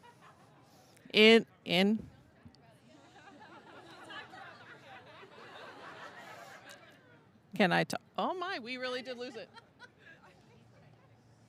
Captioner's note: laughter